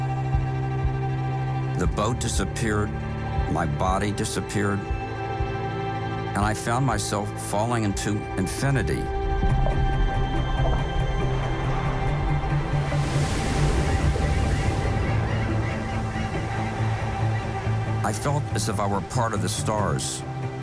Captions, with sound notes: The boat disappeared, my body disappeared, and I found myself falling into infinity. (uplifting music) (waves crash) (birds chirping) I felt as if I were part of the stars.